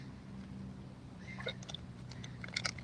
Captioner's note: birds chirping